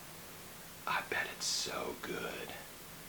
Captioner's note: whispers